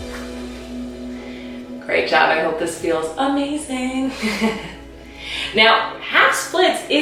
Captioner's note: laughing